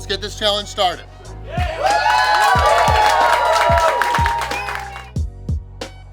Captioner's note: cheering & Clapping